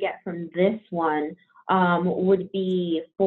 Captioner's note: none